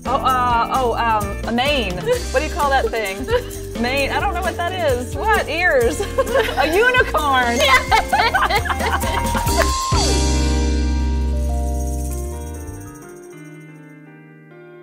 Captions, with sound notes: Oh a mane. What do you call that thing? A mane, I don't know what that is, what? Ears. A unicorn! (bell dings) (laughing) (upbeat music)